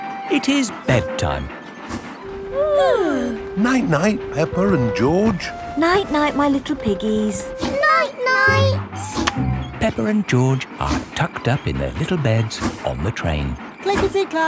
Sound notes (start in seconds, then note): 2.6 both yawning